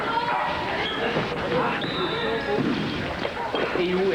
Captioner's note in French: Coup de sifflet